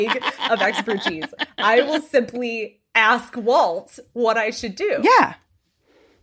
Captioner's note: cackling